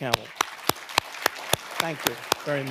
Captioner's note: audience applauding